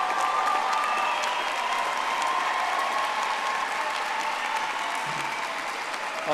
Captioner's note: audience applauding